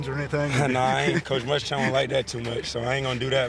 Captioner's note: laughs